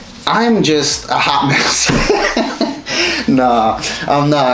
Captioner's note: laughs